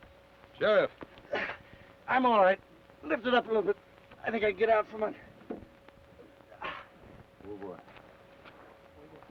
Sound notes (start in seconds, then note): 1.5 grunts